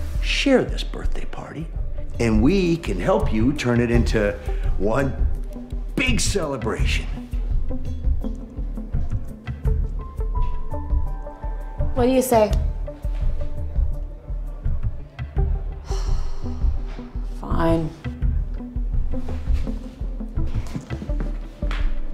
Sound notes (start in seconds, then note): 15.8 sighs